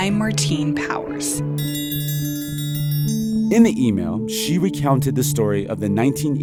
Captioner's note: soundbite of bell